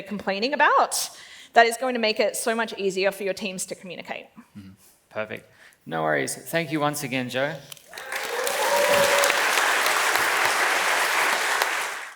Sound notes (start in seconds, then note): 7.8 claps and cheers